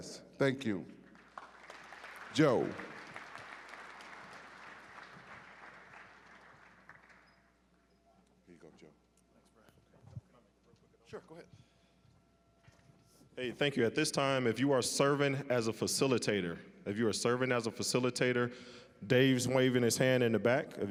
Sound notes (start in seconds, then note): 1.0 applause